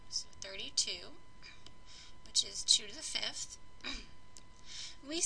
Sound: cough

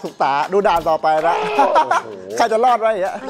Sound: laughs

